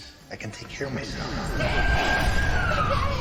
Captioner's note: sirens; sobbing